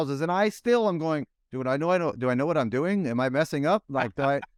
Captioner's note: laughs